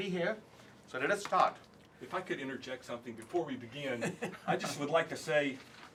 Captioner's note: laugh